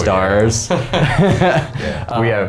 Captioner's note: laughing